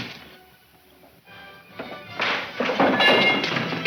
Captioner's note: clattering; cracking